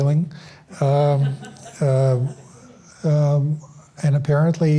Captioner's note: audience laughs